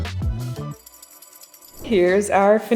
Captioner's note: chill music ends; sprinkles clink